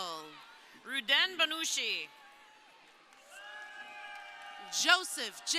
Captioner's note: crowd cheering